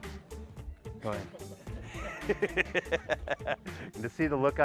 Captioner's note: laughing